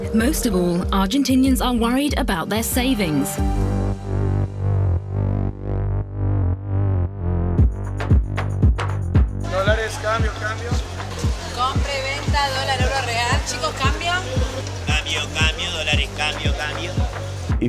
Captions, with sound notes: Most of all, Argentinians are worried about their savings. (man, in Spanish) Dollars! Exchange! Exchange! (woman, in Spanish) Buy and sell dollars, euros, reals! Exchange, man? (man's voice, in Spanish) Exchange! Exchange! Dollars! Exchange! Exchange!